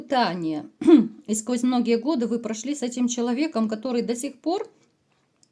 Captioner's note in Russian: откашливается